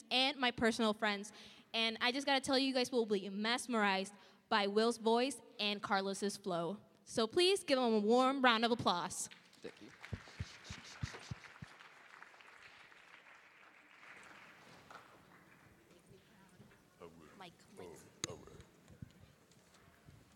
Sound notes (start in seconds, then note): 9.3 applause